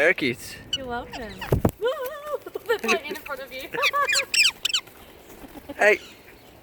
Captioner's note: nervous noises